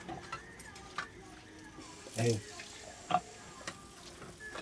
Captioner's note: water running